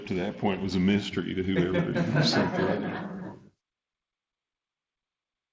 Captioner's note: everybody laughing